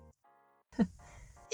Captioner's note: laughs